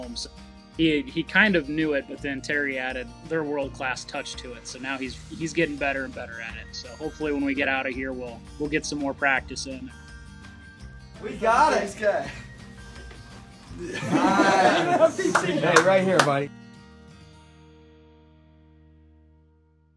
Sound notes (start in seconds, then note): 13.7 laughing